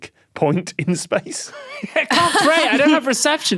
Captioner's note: wheezes